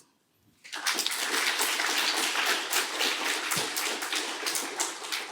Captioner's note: applause